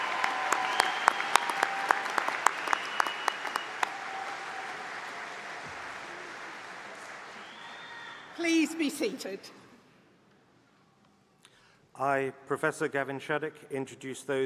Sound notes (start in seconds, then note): 3.0 applause